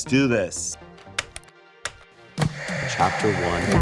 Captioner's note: remotes click; static crackles